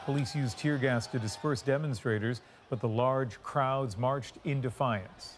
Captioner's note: cheers and applause